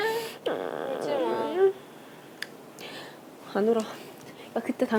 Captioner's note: tears